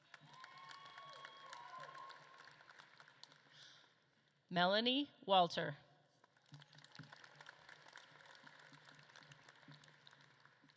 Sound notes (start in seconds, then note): 0.0 audience claps and cheers; 6.2 audience claps